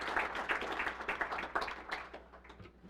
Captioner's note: applause